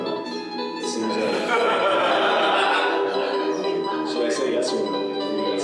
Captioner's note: laughter